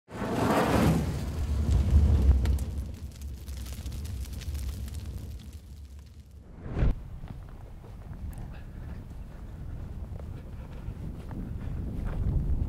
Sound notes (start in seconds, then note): 0.2 flames crackling; 6.4 wind whooshing